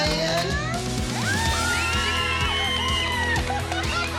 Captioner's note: cheering